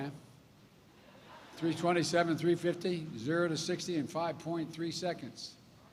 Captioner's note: laughter